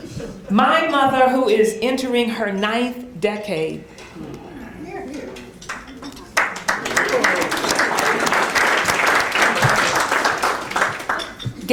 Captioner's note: applause